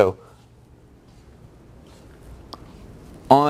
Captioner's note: pause